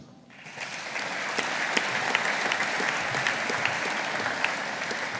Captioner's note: audience applauding